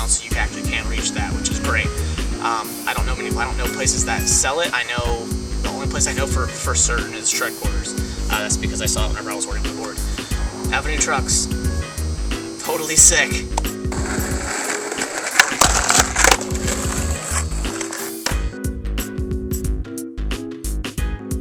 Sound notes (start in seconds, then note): 15.3 pop; 15.7 grind